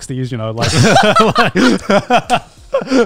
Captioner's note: laughs